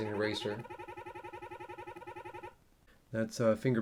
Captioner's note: beeping